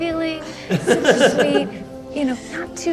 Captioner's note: hosts laugh